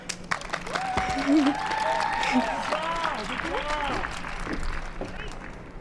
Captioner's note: applause and cheers